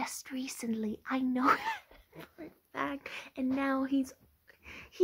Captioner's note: self deprecating laugh